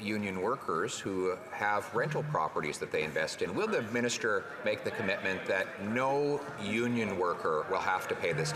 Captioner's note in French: voix de l'interprète